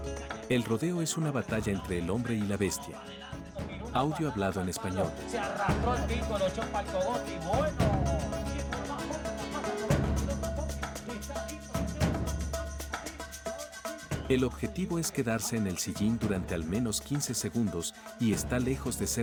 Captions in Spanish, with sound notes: El rodeo es una batalla entre el hombre y la bestia. [Audio hablado en español] El objetivo es quedarse en el sillín durante al menos 15 segundos, y está lejos de ser fácil.